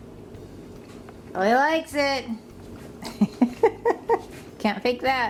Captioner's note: laughs